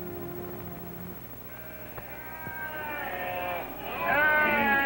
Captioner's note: sound of sheep baaaa-ing